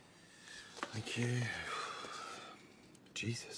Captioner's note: sighs